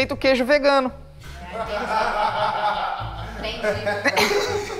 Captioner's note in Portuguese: risadas